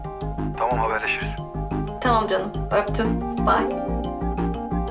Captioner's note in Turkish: Tarık ses